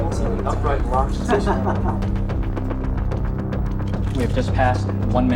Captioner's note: laughs